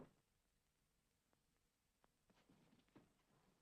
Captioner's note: none